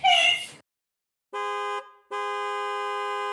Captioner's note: car horn continues; honks horn